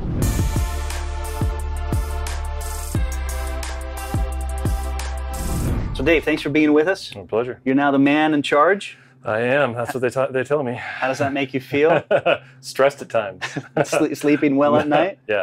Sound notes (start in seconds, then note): 0.2 upbeat synthesizer music; 10.6 sigh; 11.8 laughs